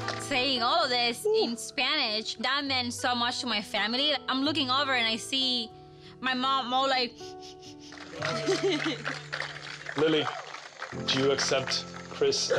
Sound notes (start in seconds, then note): 7.1 sniffs; 7.1 laughs